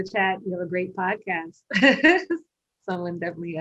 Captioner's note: laughs